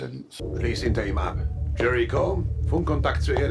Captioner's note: speaking in foreign language